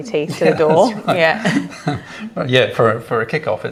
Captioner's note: laughs